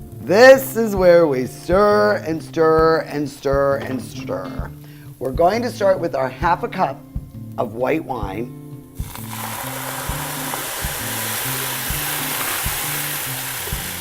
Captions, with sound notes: This is where we stir and stir and stir and stir. We're going to start with our half a cup of white wine. (loud sizzle)